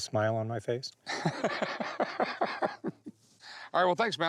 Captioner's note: laughs